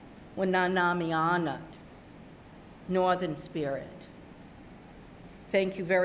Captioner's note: speaking narragansett